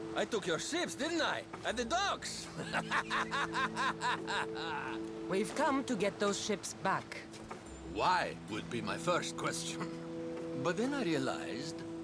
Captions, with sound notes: I took your ships, didn’t I, at the docks? (laughing) We’ve come to get those ships back. Why.. would be my first question... ...but then I realized...